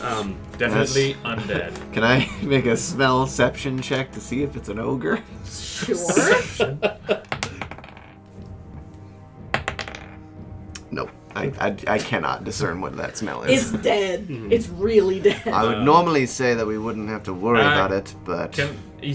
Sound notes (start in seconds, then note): 2.0 stifling a laugh; 5.8 laughs; 7.2 a die clatters on wood. And a second time, bouncing plasticly